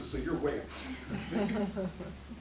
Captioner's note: laughing